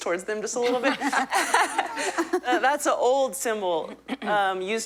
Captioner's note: laughter